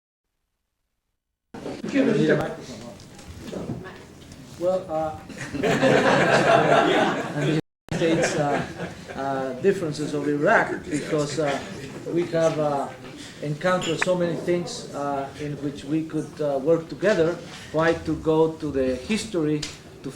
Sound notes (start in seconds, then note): 5.4 laughing